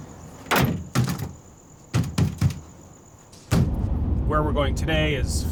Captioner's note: hand thumping; tailgate thudding